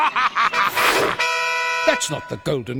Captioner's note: laughing